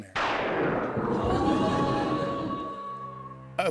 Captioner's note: thunder crashes, wolf howls